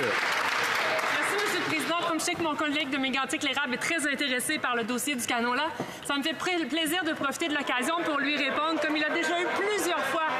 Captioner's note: some Applause